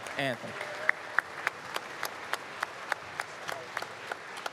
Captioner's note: applause